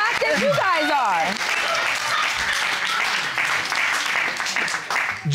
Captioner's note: audience cheering, applauding